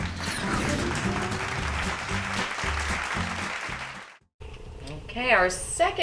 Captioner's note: applause